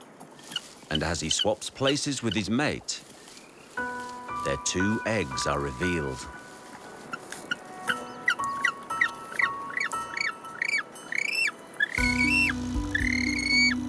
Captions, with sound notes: and as he swaps places with his mate, their two eggs are revealed. (slow dramatic music) (penguins chirping)